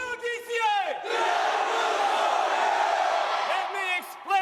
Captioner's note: cadets yelling